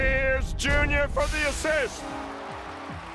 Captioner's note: steam hisses